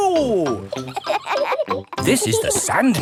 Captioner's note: kids laughing